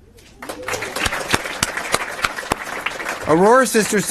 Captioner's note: applause